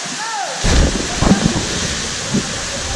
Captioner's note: splash